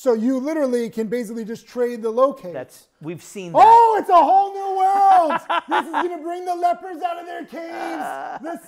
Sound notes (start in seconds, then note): 4.9 laughing